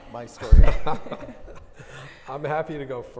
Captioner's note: all laughing